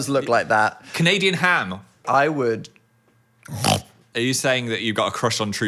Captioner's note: snorts